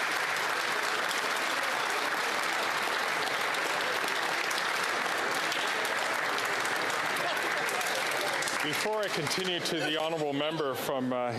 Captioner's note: applause